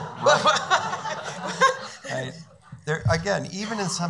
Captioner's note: laughing